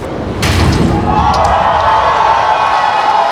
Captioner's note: crowd